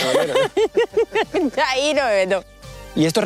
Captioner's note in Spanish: Risas